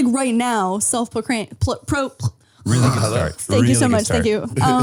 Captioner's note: murmuring